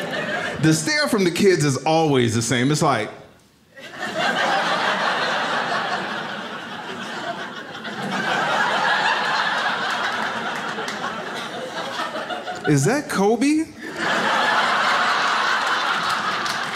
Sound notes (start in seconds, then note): 0.0 audience laughs; 3.6 audience laughs; 13.7 audience laughs